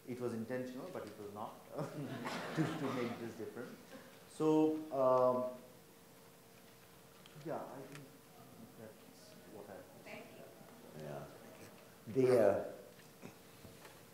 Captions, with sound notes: it was intentional but it was not. (audience laughs) To make this different. So, yeah, I think, that's what I. - Thank you.